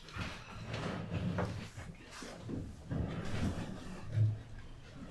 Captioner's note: chair rumble